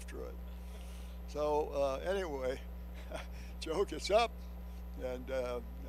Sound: chuckles

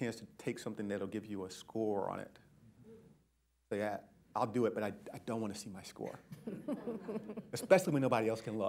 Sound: laughter

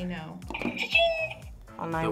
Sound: buzzer rings

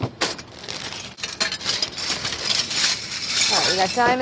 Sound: cutters clanking

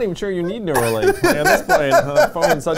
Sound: laughs

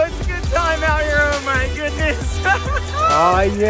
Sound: laughs

